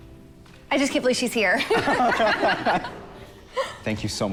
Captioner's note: laughing